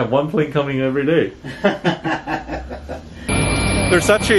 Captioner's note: laughs